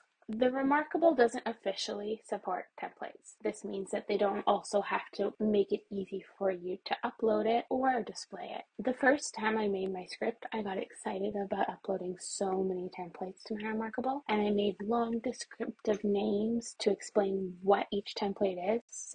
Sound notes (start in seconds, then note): none